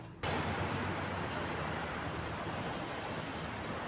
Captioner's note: traffic louder